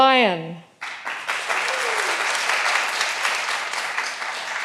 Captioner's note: all applauding